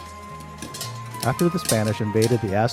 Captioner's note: popping